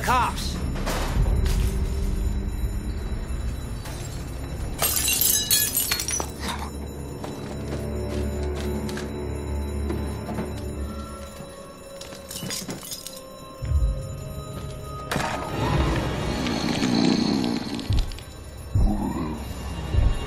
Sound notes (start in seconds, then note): 0.1 rustling; 4.7 glass shattering; 11.9 footsteps on glass; 16.7 growling